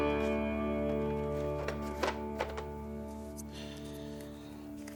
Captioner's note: pastry box rustles